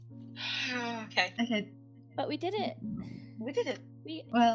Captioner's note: sigh